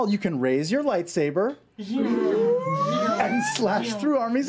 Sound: deep humming

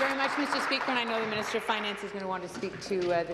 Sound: applause

